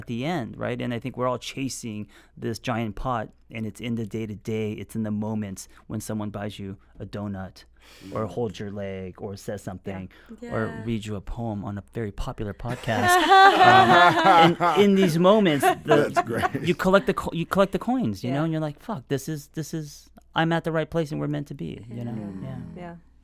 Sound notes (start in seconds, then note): 14.8 group laughs